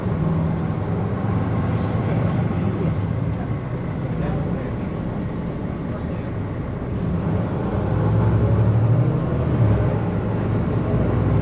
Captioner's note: sound of bus driving